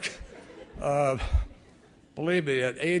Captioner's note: laughter